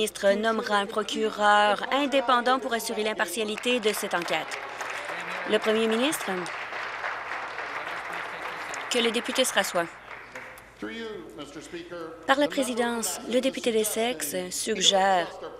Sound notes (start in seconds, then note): 6.4 applause